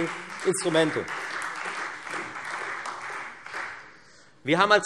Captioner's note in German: Beifall Freie Demokraten und vereinzelt SPD